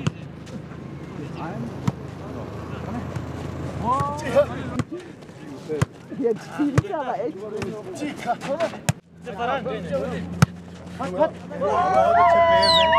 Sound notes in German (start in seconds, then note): 3.6 Fröhliche Laute, Gespräche; 11.6 Jubel